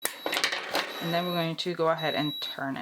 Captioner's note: machine beeping